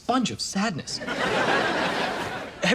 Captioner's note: audience laughs